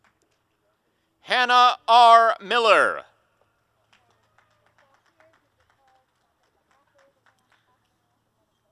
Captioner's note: applause and cheering; applause